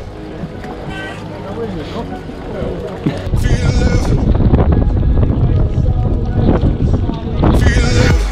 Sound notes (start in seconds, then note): 3.7 wind